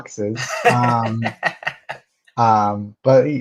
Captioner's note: laughing